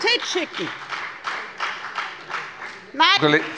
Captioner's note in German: Beifall bei der FDP